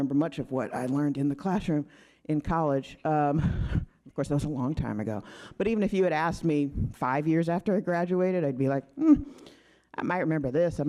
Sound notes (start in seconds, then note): none